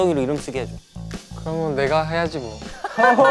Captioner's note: ah